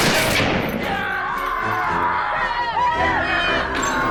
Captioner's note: crowd cheers